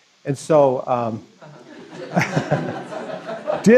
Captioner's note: laughter